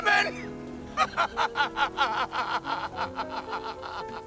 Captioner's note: sobs